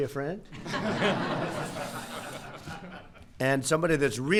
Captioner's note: laughter